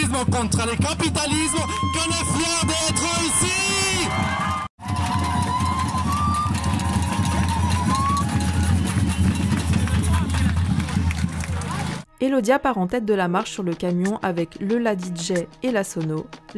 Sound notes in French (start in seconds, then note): 4.8 Applaudissements et cris de la foule